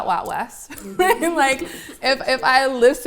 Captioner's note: laugh